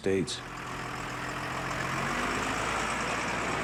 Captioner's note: engine rumbling